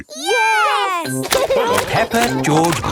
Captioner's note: laughing